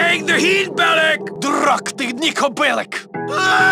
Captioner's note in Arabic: يتحدث الروسية